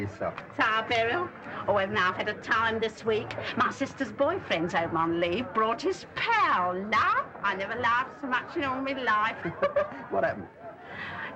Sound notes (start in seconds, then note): 9.4 chuckles